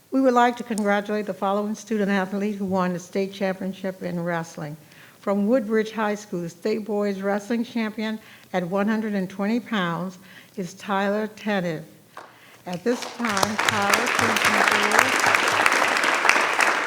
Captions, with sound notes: - We would like to congratulate the following student athlete who won state championship in wrestling. From Woodbridge High School, the state boys wrestling champion at 120 pounds is Tyler Tanev. (audience applause) At this time, Tyler...